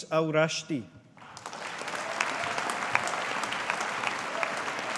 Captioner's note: audience applauding